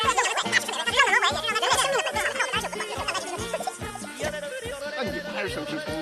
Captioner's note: fast forwarded bickering